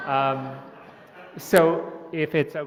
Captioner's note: laughter